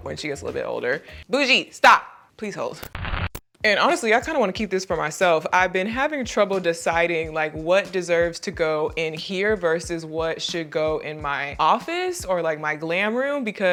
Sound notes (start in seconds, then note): 2.8 static crackling